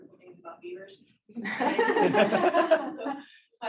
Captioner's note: laughter